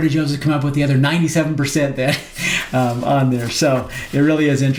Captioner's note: chuckles